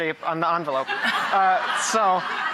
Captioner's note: laughing